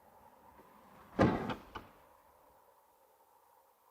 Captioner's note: door slams shut